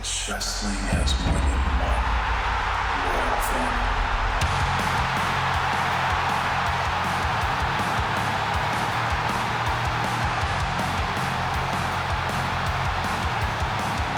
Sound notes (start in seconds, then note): 4.4 upbeat rock music; 4.5 audience cheering